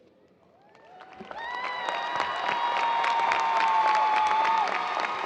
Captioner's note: cheers and applause